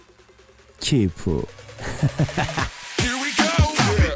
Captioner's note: hahahaha !